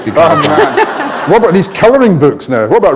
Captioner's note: laughter